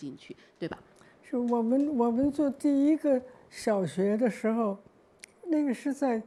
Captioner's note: Mandarin